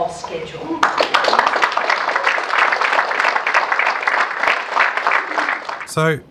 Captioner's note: much clapping